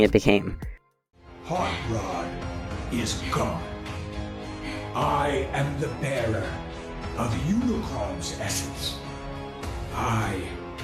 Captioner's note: slow and monotone